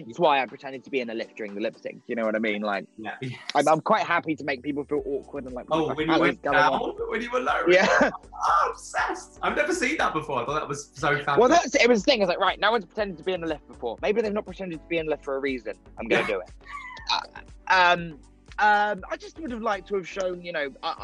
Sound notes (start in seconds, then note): 3.4 chuckling; 8.6 laughing; 16.1 laughing